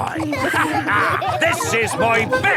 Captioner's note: all laughing